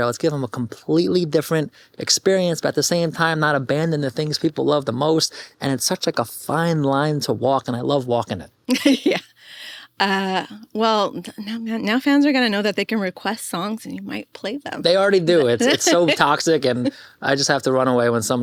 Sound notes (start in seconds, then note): 8.7 chuckles